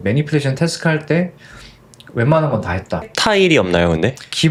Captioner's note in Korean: 콧방귀